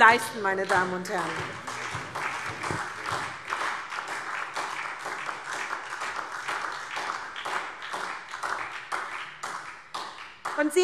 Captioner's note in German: Beifall SPD